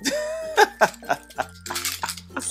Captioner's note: laughs robustly